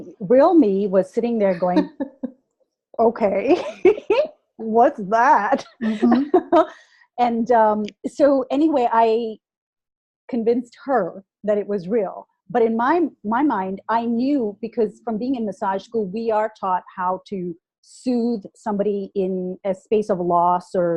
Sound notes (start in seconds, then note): 1.7 laughter